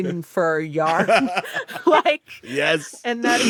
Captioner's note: laughs